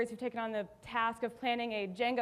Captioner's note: none